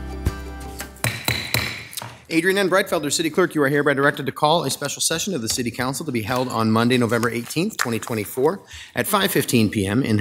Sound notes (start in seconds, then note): 1.0 mallet thudding